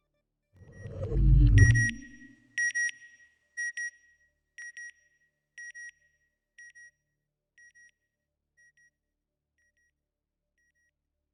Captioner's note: satellite beeping